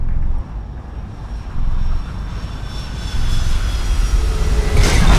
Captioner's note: ominous tune plays; spooling of aircraft engines